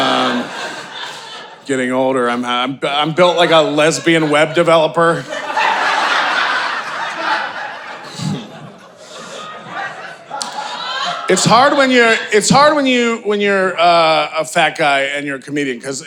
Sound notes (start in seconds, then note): 0.0 audience laughing; 5.6 audience laughing